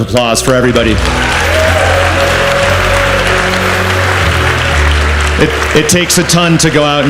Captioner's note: audience cheers and applauds